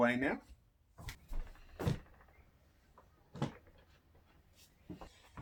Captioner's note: footsteps stomping